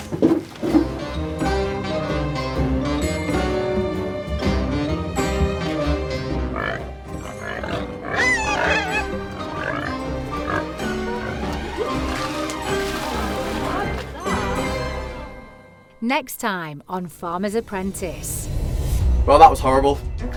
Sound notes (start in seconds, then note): 1.4 jazzy music; 6.2 pigs oinking and squealing